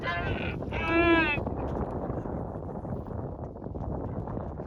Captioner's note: surprised